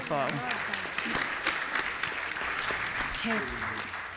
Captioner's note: applause